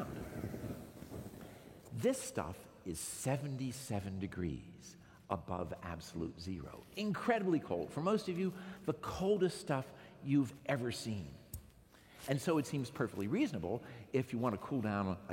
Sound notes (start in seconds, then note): none